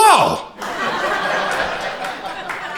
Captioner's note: crowd laughter